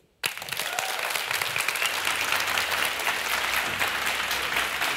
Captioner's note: clapping and cheering